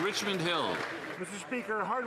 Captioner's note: some Applause